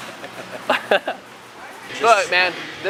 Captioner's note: both laugh